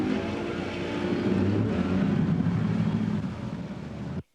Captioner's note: birds chirping